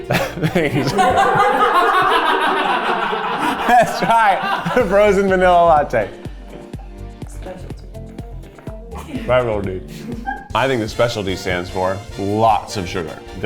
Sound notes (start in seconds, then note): 0.0 all laughing